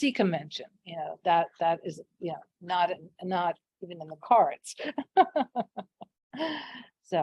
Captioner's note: laughs